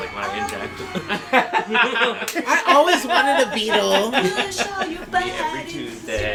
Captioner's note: laughter